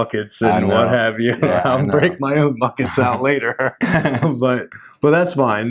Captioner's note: chuckles